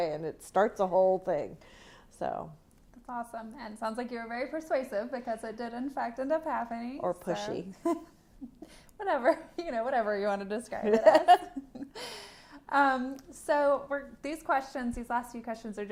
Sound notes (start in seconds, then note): 7.8 laughter; 10.8 laughter